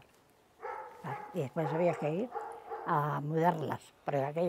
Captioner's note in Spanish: ladridos